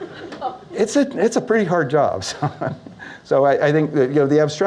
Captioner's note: laughs